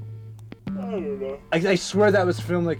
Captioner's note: yawning